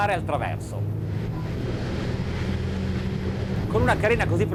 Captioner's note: boat hitting waves; man speaks in foreign language